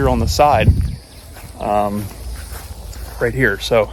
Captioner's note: birds chirping; footsteps thumping